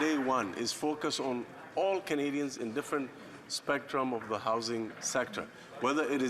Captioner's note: some Applause